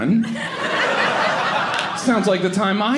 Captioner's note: audience laughing